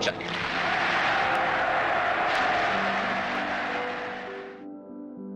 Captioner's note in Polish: oklaski, wiwaty